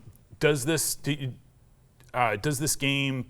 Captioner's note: none